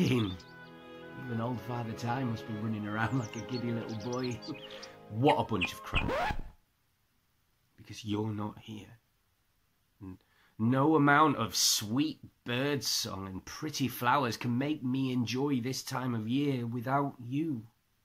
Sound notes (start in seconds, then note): 5.3 record scratch - music and birds stop